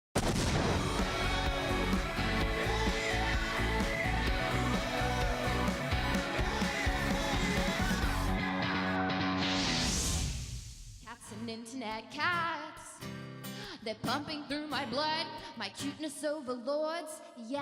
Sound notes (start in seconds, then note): 0.1 explosion; 0.5 upbeat rock music